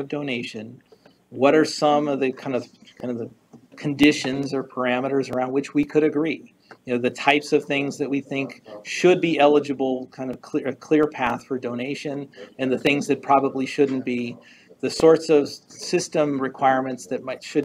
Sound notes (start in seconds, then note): 3.1 stutters